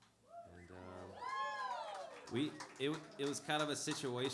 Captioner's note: applause